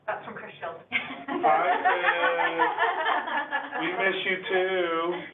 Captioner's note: all laughing